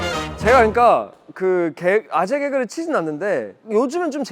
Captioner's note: suddenly started talking fast